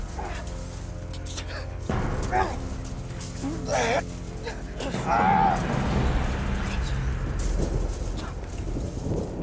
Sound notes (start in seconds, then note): 3.4 grunting